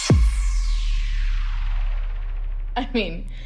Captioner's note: explosion sound